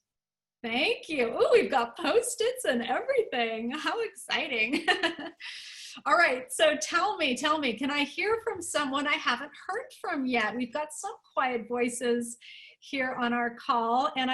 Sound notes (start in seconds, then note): 4.7 laughter